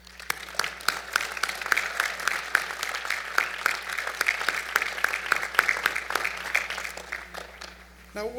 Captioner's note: applause